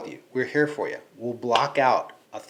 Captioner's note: smacking